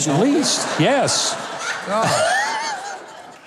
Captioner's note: crowd laughing